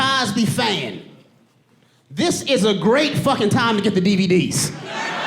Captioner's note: audience laughing